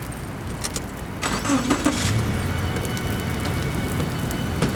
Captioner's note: car engine roaring